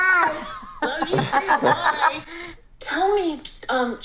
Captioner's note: laughing